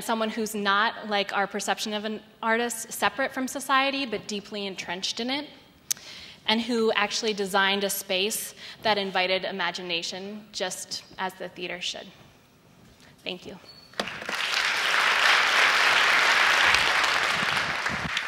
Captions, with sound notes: and someone who's not like our perception of an artist separate from society but deeply entrenched in it. And who actually designed a space that invited imagination just as the theater should. Thank you. (Applause)